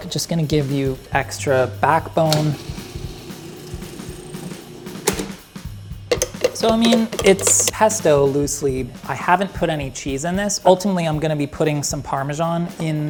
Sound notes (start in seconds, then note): 2.2 food blending